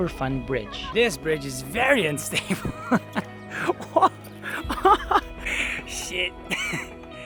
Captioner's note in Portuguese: risos